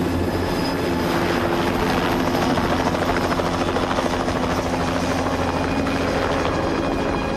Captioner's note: helicopter blades whir